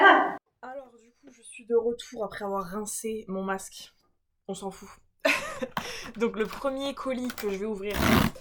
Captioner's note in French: rires